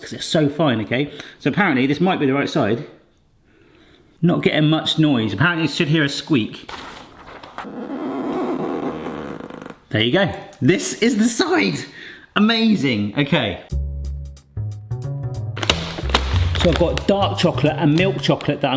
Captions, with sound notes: 'cause they're so fine, okay? So apparently this might be the right side. Not getting much noise. Apparently you should hear a squeak. (finger squeaking on plastic) There you go. This is the side. Amazing, okay. (bright jazz music) (packets crumple) So I've got dark chocolate and milk chocolate,